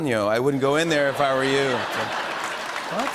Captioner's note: laughter and applause